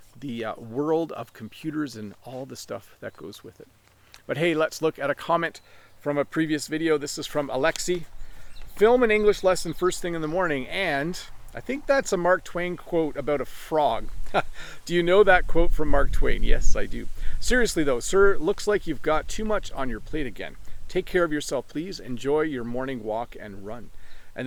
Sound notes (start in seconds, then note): 14.1 chuckling